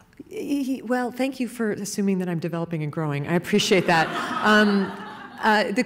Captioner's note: laughing